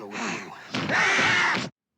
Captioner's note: screams